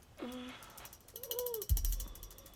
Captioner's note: whimpering